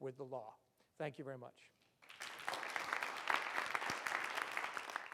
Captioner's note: audience applauds